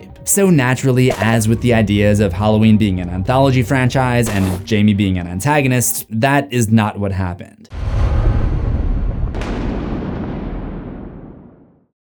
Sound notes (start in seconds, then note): 7.7 thunder